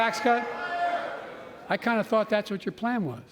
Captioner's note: jeering